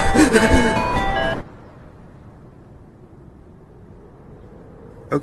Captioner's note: gasping for breath, snow crunching; music stops, wind blows quietly